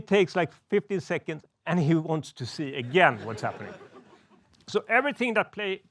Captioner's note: laughs